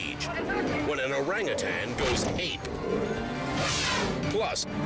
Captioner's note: scooter crashes